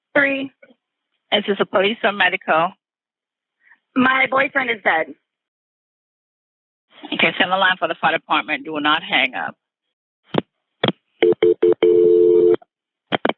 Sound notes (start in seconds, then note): 10.1 click; 11.2 dial tone; 13.1 click